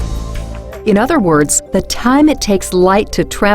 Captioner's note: voiceover